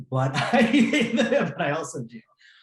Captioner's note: laughs